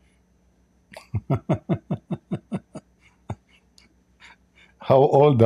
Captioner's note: Ketawa